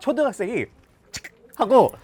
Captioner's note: snap